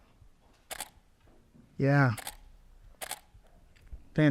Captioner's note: camera clicks; camera clicks